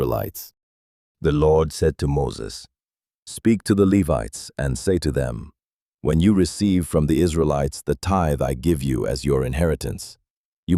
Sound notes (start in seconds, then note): 2.7 commanding